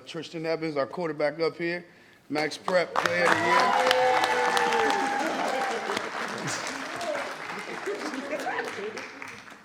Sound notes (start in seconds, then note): 5.2 audience applauding